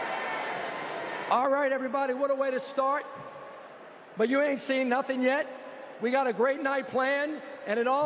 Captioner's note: applause